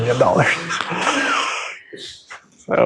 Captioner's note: chuckling